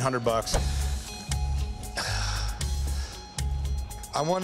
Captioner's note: exhales